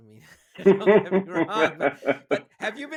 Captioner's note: laughing